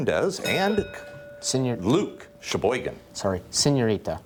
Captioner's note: bell dinging